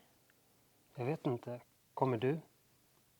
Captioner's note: in Swedish